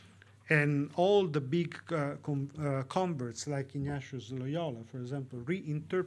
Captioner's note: speaks foreign language